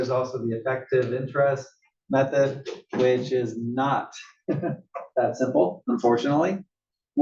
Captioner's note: laugh